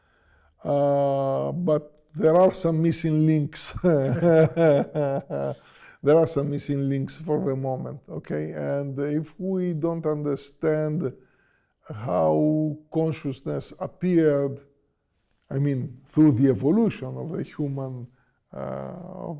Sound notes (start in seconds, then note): 3.8 laughs